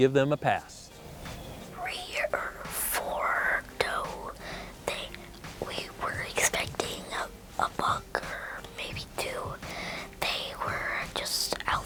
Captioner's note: whispering